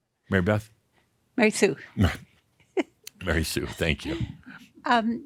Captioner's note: she giggles